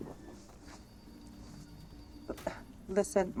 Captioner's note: distant phone rings